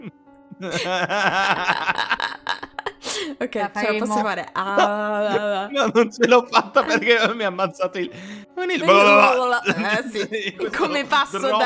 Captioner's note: gargle